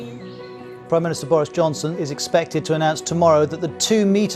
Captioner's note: rolling news audio